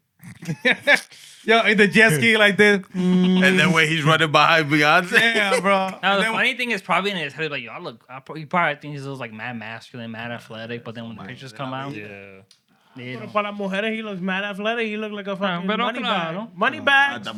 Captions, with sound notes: The Jesky like this. And then when he's running behind Beyonce. Yeah, bro. The funny thing is probably in his head, like, y'all look-- you probably think he's like mad masculine, mad athletic, but then when the pictures come out-- Yeah. (Non-english Speech) He looks mad athletic. He looks like a fucking money bad. Money bad. Money bad.